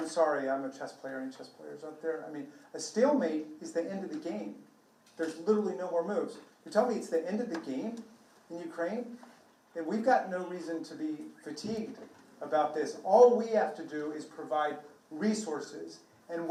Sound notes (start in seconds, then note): none